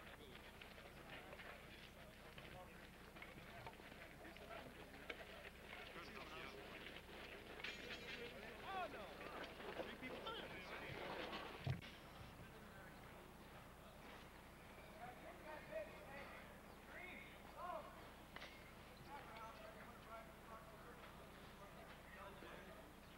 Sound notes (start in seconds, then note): 0.1 indistinct chatter; 15.1 distant shouting; 18.8 distant chatter